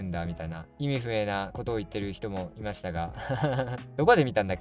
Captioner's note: laughs